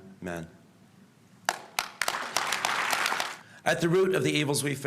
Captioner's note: applause